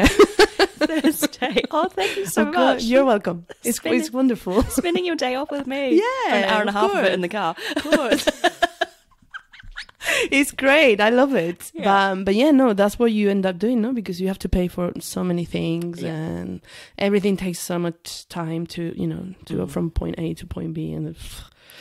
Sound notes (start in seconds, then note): 9.0 laughs